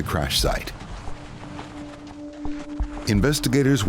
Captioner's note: pattering